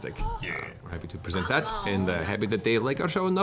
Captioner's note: funny accent